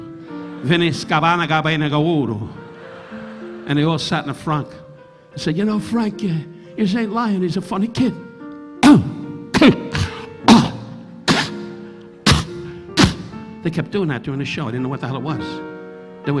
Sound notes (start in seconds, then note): 0.3 audience laughing; 8.8 Don choking into mic; 8.8 Don coughing into mic